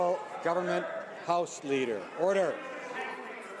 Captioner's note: some Applause